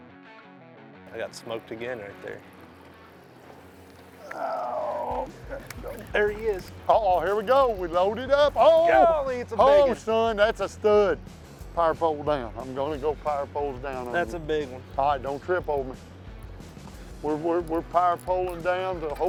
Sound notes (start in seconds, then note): 4.2 groaning